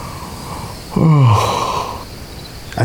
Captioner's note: yawn